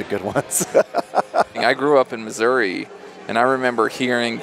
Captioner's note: laughs